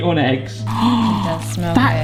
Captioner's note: gasps